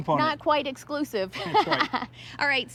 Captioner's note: laughs